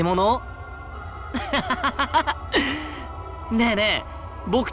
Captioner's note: laugh